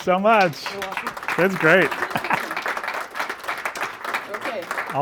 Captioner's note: audience applauding